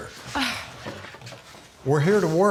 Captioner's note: Angela scoffing